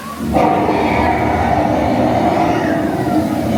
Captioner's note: dragon roars